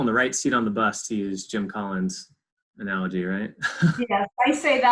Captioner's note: laughs